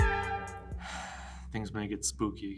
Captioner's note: sighs